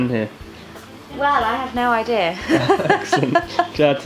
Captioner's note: laughs